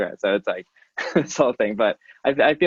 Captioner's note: laughing